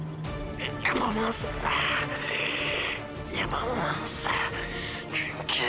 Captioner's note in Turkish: Boğularak